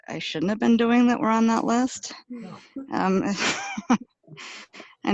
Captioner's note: laughs